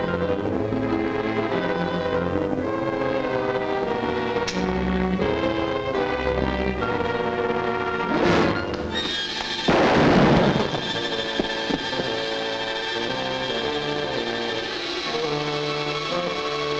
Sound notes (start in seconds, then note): 0.2 tense music; 4.8 light clicks on; 9.2 suspenseful music; 9.6 gun fires; 11.5 suspenseful music